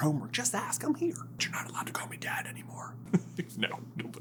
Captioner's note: whispers; laughing